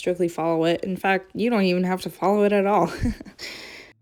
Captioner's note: laughs